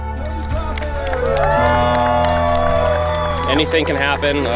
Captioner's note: crowd cheers